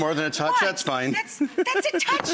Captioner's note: laughing